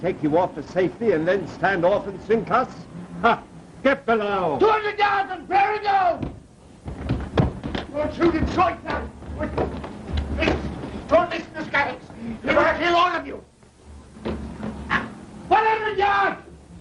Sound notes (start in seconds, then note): 6.5 arguing and scuffling